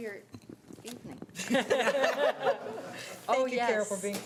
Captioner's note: group laughs